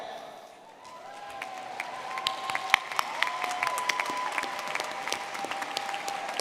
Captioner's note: audience clapping and cheering